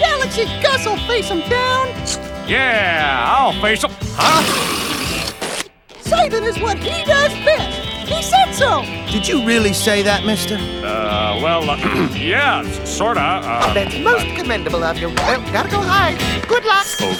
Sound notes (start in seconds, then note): 11.8 clears throat